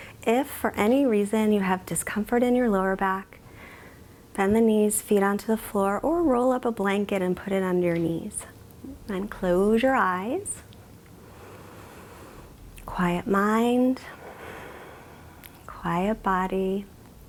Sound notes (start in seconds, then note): 14.1 exhales